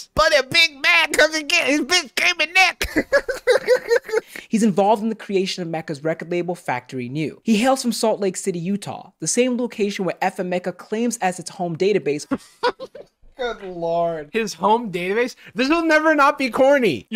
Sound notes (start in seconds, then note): 2.7 laughs; 12.3 giggles